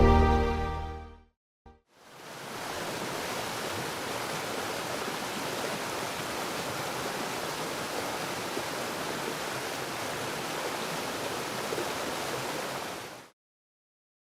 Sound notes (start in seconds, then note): 2.2 water rushing